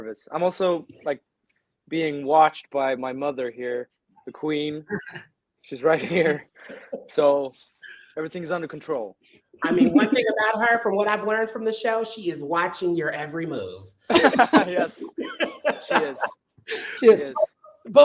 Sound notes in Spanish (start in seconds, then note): 14.1 risas